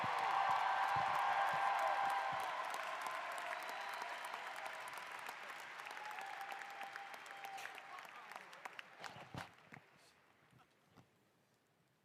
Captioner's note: applause